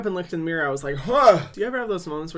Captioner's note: gasps